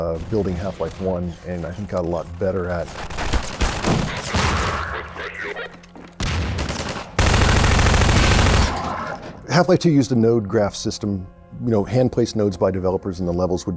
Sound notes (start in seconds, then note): 2.8 rapid gunfire; 3.0 loud explosions; 4.6 chatter over radio; 6.2 loud automatic gunfire; 6.2 rapid gunfire